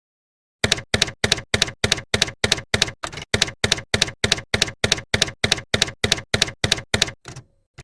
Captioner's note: typewriter keys clacking